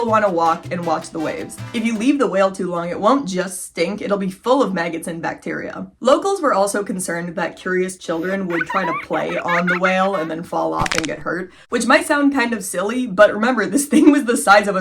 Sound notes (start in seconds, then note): 8.1 kids giggling; 10.8 bones cracking